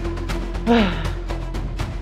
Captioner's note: sighing